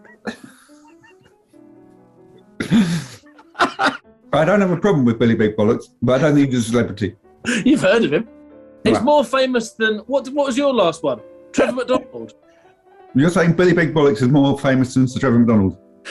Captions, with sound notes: [GIGGLING] I don't have a problem with Billy Big Bollocks, but I don't think he's a celebrity. You've heard of him! He's more famous than... What was your last one? Trevor McDonald? You're saying Billy Big Bollocks is more famous than Sir Trevor McDonald?